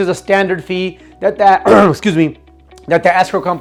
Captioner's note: instructor coughing